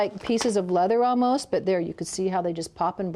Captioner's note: snapping